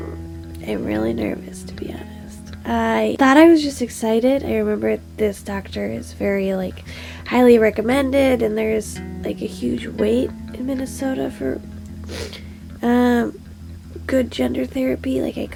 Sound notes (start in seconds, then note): 12.0 sniff